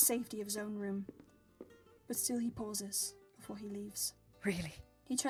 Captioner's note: footsteps